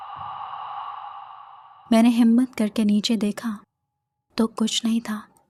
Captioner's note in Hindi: गहरी सांस लेने की आवाज़